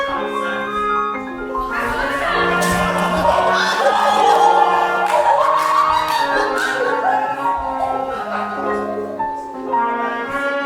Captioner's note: audience laughing